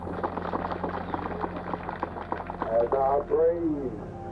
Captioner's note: applause